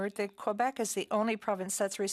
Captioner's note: speaking French